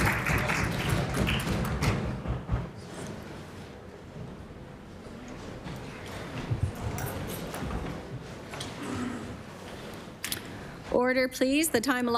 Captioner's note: applause